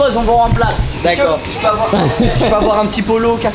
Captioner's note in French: rire